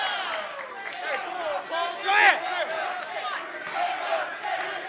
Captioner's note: crowd chatter